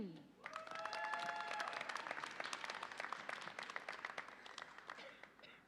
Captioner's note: audience applauds and cheers